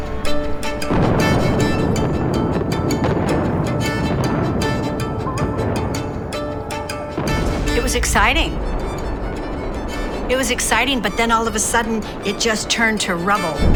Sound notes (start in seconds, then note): 0.7 explosions